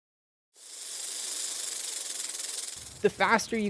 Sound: rattlesnake sound

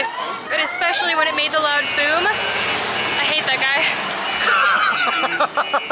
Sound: laughter

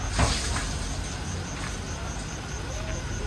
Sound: sound of people bathing

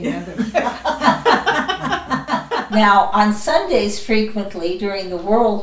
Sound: laughing

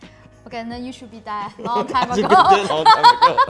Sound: laughing

